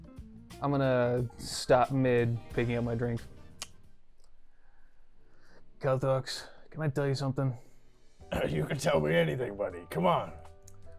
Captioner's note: inhales